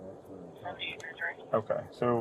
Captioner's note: radio chatter